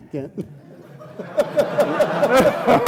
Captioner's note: laughing